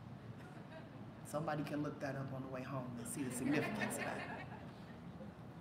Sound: laughter

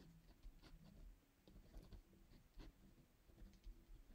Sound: pen scraping

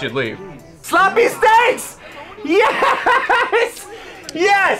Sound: laughs

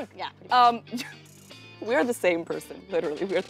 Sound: chuckles

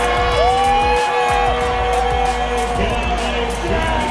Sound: cheering

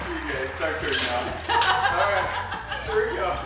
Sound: laughs

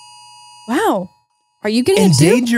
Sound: phones alert

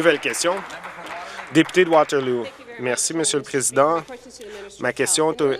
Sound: applause

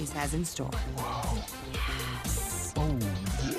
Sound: sighs

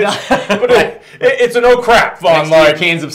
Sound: laughs

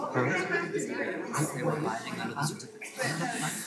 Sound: chattering

